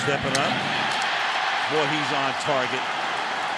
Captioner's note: cheering